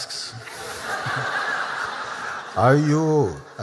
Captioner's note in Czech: Smích